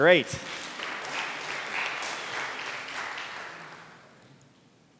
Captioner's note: applause